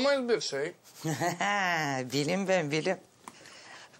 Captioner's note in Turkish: Gülüyor